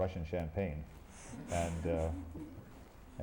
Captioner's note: laughter